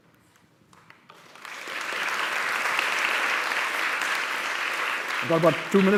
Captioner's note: applause